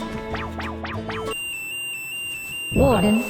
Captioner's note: alarm blares